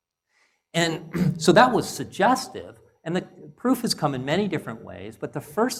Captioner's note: cough